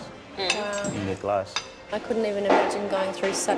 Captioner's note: voiceover